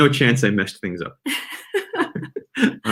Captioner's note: laughing